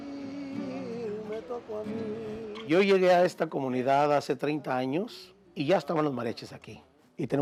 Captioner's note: speaking in Spanish w/ English subtitles